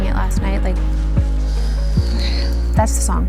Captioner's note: big exhale